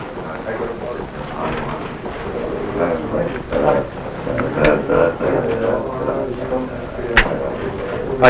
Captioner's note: speaking and mumbling